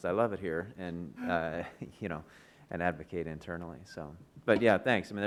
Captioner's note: chuckles